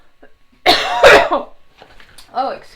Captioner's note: coughing loudly